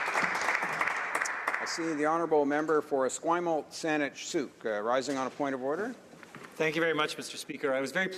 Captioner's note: applause